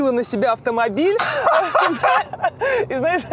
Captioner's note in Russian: Дудь хохочет